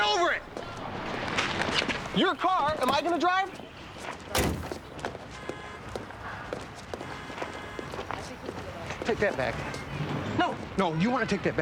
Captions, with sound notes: Get over it! Your car? Am I gonna drive? (car horn honks) - Take that back.